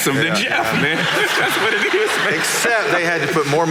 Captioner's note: audience laughing